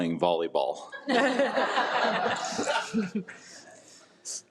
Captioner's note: attendees laugh